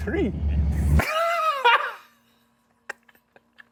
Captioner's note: laughing